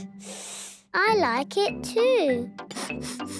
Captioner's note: sniffs; sniffing